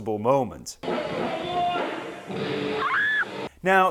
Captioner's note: screams, bass death and general mayhem!